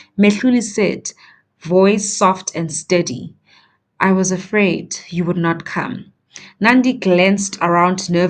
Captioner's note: voice soft and steady